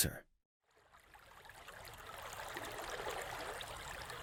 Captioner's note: stream burbling